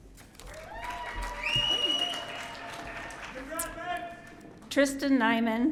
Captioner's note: audience applauding